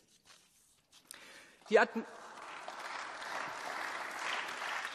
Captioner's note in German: Beifall